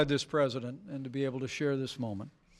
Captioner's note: none